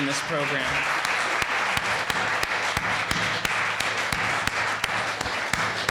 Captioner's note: audience applauding